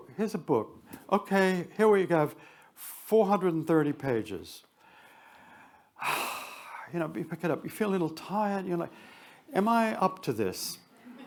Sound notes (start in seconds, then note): 6.0 sighs